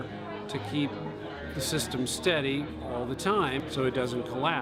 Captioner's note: none